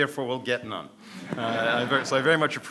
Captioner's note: audience laughs